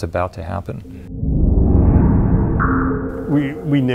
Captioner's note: woosh